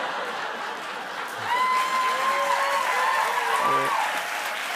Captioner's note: cheers and applause